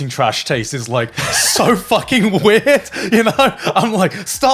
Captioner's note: laughing